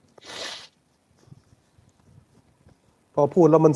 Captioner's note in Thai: เสียงสูดหายใจ